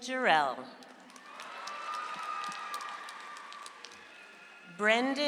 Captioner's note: audience applauds